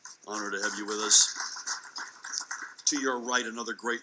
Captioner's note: audience clapping